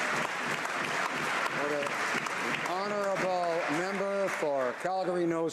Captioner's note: some Applause